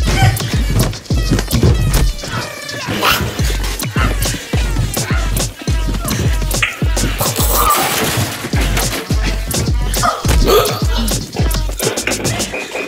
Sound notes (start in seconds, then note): 3.0 demon growling loudly; 3.9 upbeat dance music continues